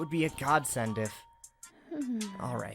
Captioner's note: snore